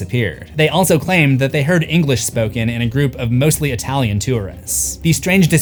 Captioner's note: English